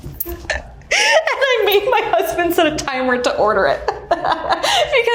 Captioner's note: Ashley chuckles